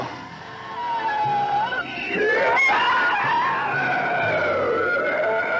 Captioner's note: creature shrieking